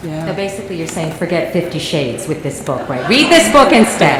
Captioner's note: laughter